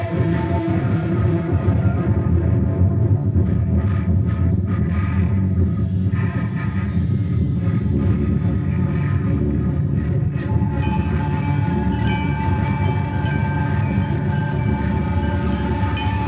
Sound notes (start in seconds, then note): 0.2 intense music; 12.5 rattling